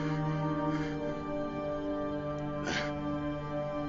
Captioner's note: panting